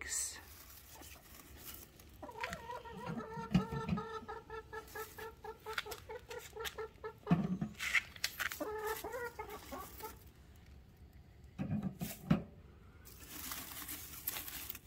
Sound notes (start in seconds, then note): 2.1 chicken talking